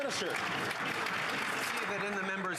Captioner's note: applause